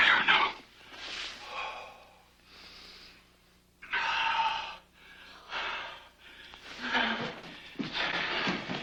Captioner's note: starts panting